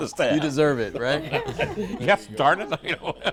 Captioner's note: laughter